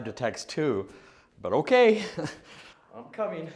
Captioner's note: chuckles